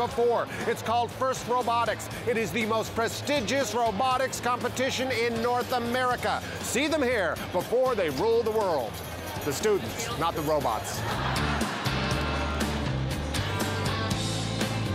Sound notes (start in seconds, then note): 11.0 laughter